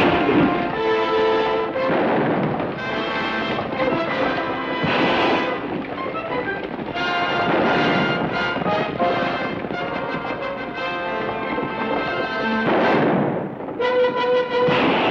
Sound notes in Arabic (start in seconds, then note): 0.1 اطلاق نار; 4.9 اطلاق نار; 12.7 اطلاق نار